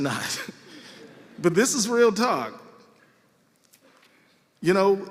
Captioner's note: laughter